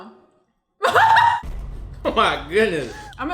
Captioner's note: laughs